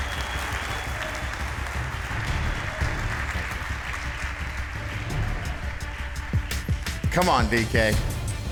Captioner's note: applause